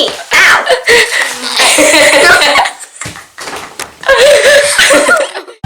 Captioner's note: laughing